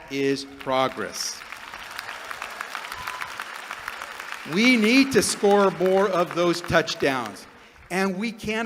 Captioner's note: applause